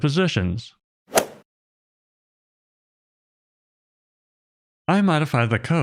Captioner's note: golf ball hit sound